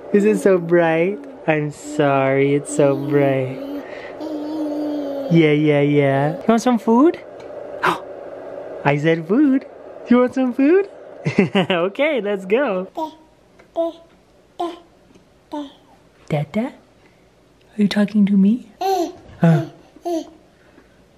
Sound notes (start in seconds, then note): 7.9 gasps; 11.5 laughs